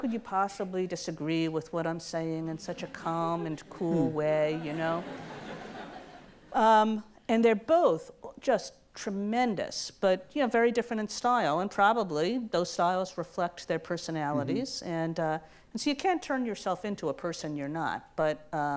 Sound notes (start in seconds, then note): 4.5 audience laughs